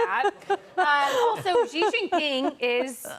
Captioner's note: laughter